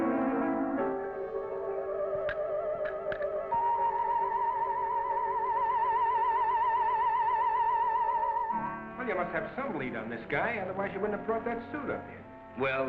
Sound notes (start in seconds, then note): 2.5 lock clanking